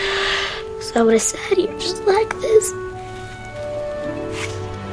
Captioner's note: sighs